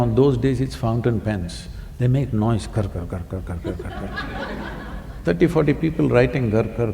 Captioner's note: laughter